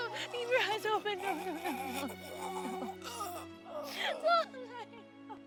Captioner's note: Dalton gurgling